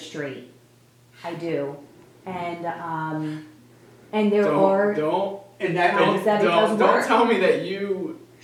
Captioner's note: mumbling